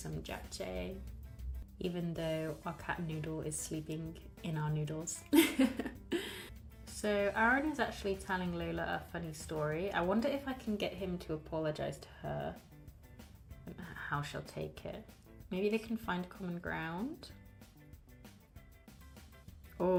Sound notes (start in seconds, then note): 5.3 laughs